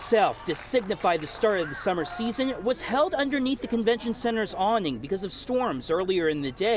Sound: applause

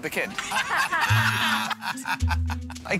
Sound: chuckles; laughter

